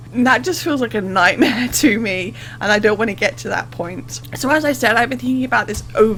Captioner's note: laughs